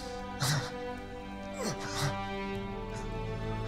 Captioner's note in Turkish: İnleme sesi